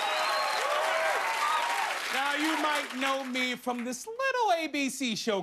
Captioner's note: cheers and applause